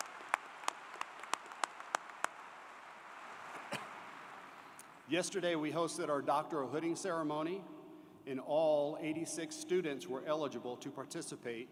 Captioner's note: applause